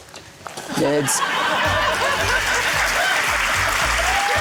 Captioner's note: laughter, applause